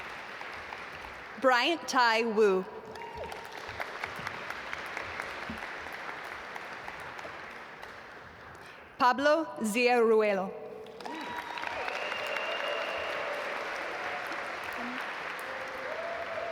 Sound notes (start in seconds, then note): 2.8 audience applaud; 10.8 audience applaud